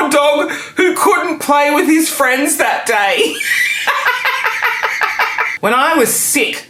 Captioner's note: laughing